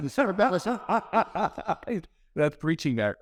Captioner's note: laughs